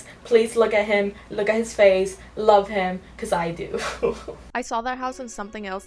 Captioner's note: laughs